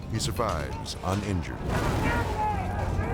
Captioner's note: flames whooshing; rescuers shouting